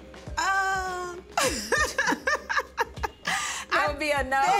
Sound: laughs

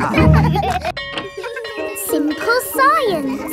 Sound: children laughing; bell tolling

